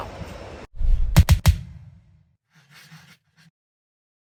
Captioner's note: logo whooshing